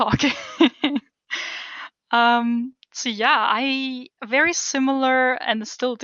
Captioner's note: laugh